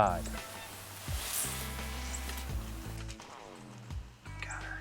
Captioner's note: whispering